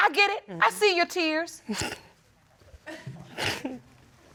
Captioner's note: snickers